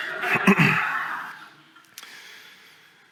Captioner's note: laughter